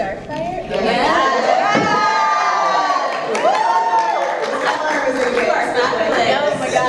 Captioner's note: crowd cheers